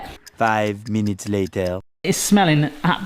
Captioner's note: timer ticking